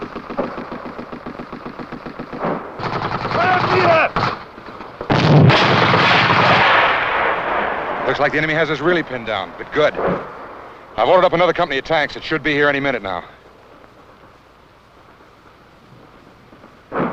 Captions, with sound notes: [gun shots] - Let him see that. [explosions] - Looks like the enemy has us really pinned down, but good. I've ordered up another company of tanks that should be here any minute now.